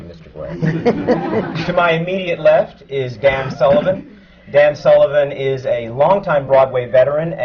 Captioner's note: laughter